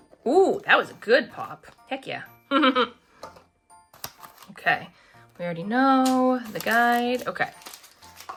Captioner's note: laughs